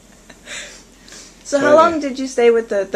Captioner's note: laughter